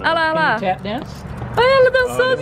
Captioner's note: english conversation